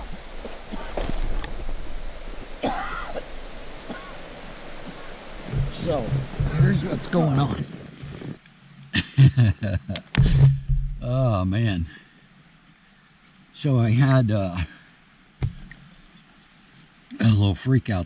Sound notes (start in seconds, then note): 8.9 laughs